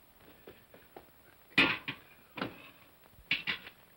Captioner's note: cup sets down hard